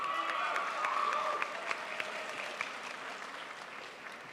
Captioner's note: crowd applauds